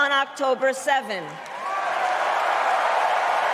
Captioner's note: applause